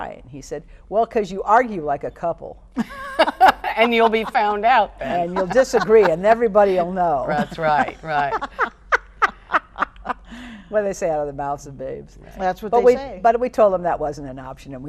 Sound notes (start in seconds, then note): 2.8 laughs; 7.2 laughing